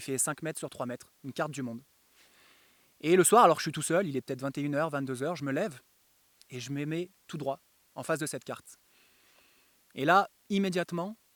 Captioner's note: makes clicking noises